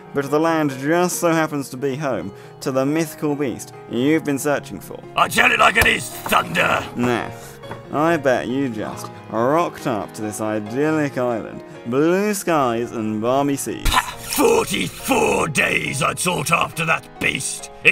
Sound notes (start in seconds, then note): 1.5 music back in- more hopeful and cheery; 4.1 music back in- more hopeful and cheery; 7.3 exhale of mirth